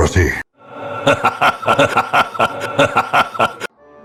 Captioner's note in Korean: 숙련된 도둑의 웃음